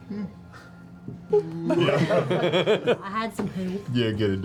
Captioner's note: laughter